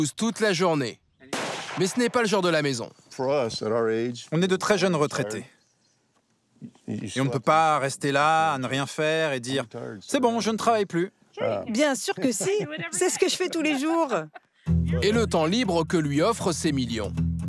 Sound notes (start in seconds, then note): 12.1 laughs